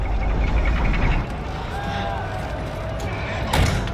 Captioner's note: engine roaring